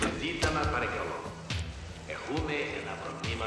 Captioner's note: announcer speaking spanish